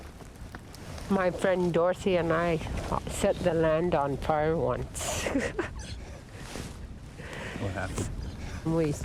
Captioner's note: giggles